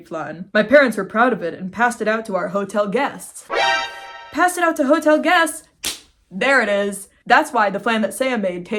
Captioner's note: shocked sound effect; clap